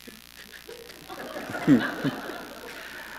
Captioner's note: laughter